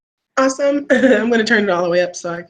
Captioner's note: laughing